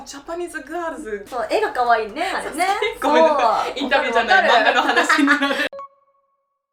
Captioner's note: laughs